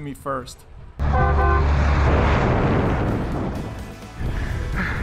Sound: truck honks; bright country music

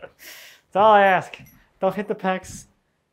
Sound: laughs

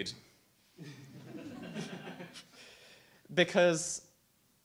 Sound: audience laughs

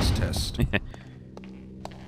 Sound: laughs

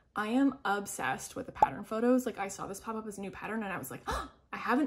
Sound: gasp

